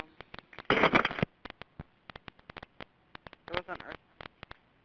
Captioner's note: phone clatters